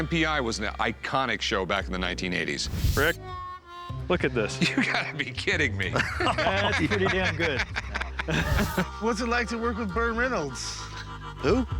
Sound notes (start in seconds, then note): 5.7 laughter; 5.9 laughing; 8.3 laughter